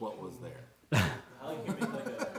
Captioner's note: laughter